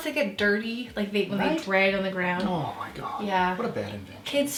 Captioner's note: none